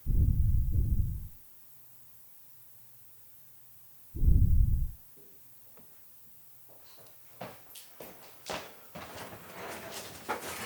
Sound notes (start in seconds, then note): 0.0 heavy thumps; 4.2 heavy thumps